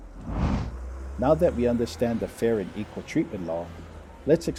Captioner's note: compass spinning; whoosh; trolley passes